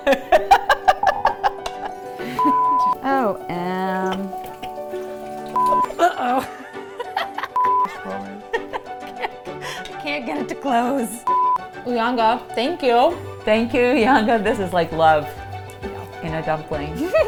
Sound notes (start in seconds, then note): 0.0 laughing; 2.4 screen beeping; 5.6 screen beeps; 5.8 laughing; 7.6 screen beeping; 8.6 laughing; 11.2 screen beeping